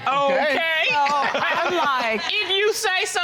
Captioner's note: chuckles